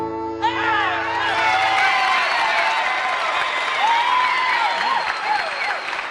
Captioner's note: music ends, cheers and applause